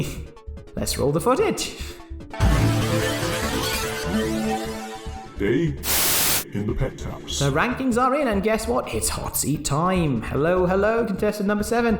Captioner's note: Static